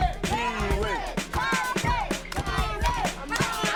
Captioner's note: kids cheering